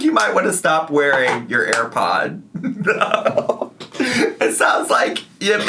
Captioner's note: laughs